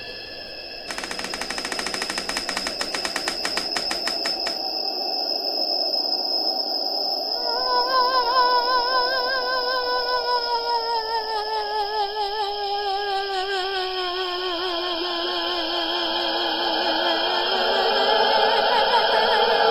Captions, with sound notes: (door creaking) woah wooaaah oooh ooh